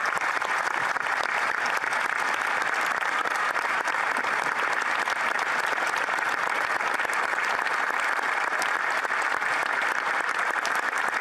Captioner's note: applause